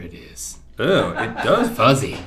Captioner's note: laughter